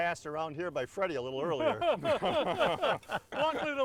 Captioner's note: all laughing